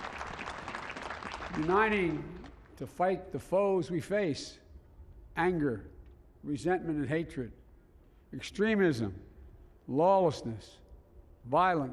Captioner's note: applause